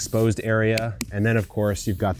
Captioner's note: slaps pumpkin